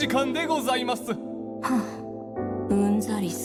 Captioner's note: sigh